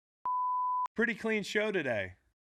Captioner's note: beep